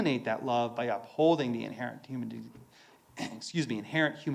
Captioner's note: clears throat